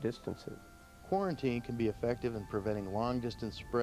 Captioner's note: voiceover